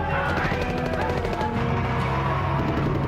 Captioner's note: men shouting; guns firing